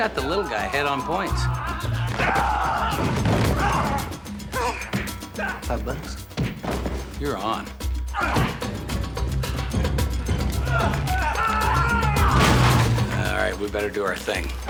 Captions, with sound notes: I got the little guy ahead on points. (yelling) Five bucks? (blows landing) You're on. (grunting) (bones crunching, grunting) All right, we better do our thing.